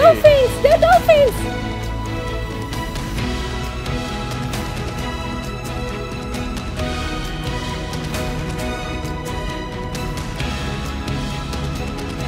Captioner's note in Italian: Applauso